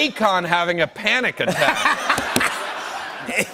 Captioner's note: laughter